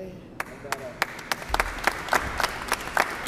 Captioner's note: applause